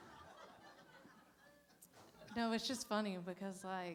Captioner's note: laughter